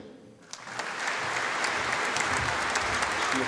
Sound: audience applauding

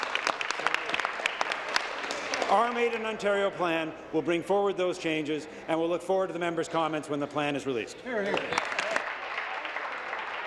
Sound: applause

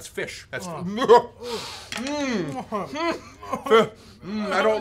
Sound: groans

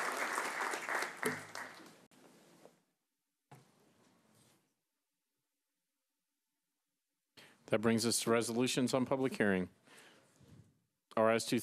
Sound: applause

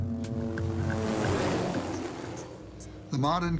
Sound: light electronic music; helicopter roaring

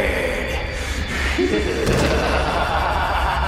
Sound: laughing

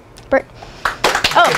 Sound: applause

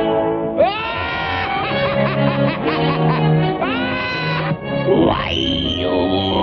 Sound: laughs

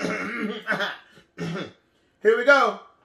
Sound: clears throat

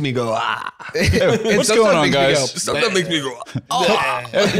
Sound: gags

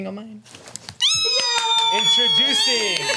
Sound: cheers

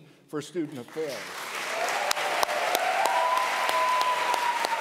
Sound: audience applause

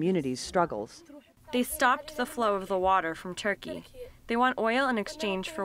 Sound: through translator

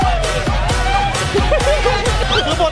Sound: Thai EDM music playing; chuckles

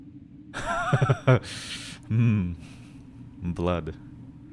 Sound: nervous laughter

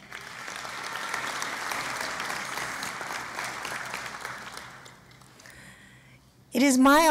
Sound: applause

